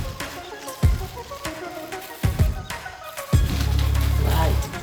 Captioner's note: paper rustling